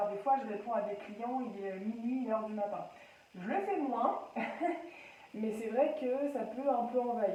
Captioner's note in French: rire